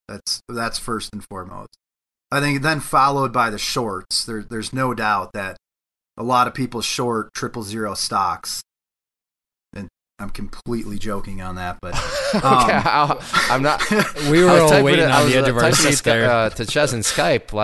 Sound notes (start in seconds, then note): 11.9 laughs